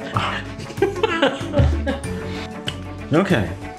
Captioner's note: giggling